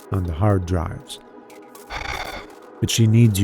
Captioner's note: thankful sigh